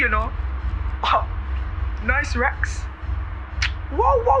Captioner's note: scoffs